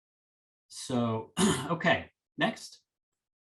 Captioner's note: clears throat